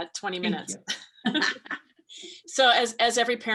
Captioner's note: laughs